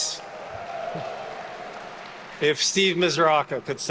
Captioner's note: attendees cheering and applauding